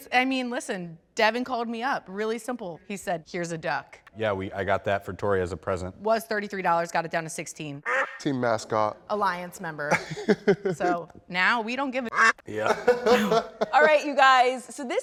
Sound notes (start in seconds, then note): 12.0 quack; 12.1 laughs